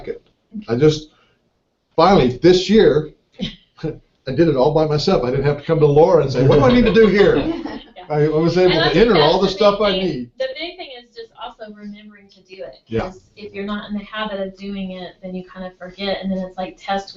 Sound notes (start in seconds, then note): 5.8 laugh